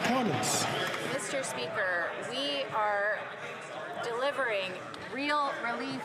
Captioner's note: some Applause